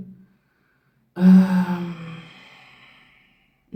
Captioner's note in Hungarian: sóhajtás